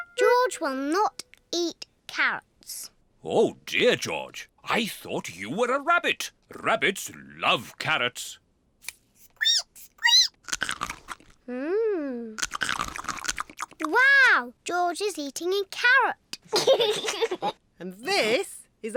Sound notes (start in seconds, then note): 10.0 squeaks and crunches; 16.4 giggles